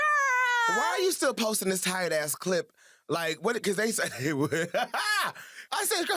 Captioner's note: laughs